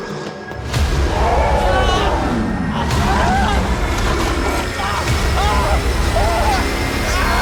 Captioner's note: creature roaring; man screaming